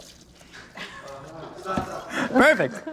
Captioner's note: male Voice